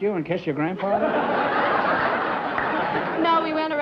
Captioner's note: laughter